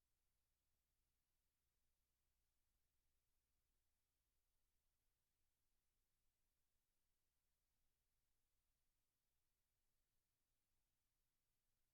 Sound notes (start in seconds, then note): none